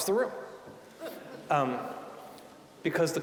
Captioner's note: audience chuckling